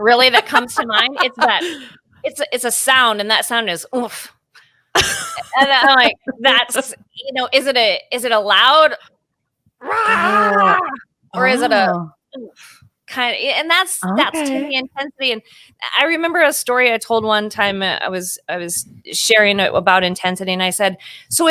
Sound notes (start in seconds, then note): 0.0 chuckles; 0.1 laughing; 4.9 laughing; 9.8 growling